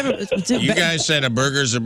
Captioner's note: laughing